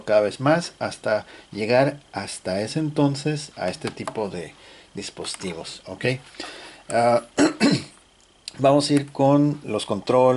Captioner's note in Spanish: carraspeo